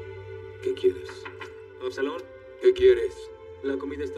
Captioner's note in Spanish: Llama a la puerta